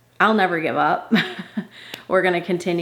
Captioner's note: mother chuckling